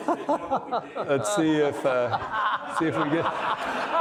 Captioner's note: audience laughing